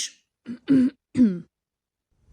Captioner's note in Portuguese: ruído de clarear a garganta